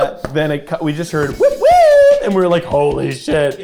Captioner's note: wailing